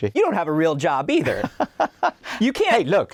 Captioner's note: laughs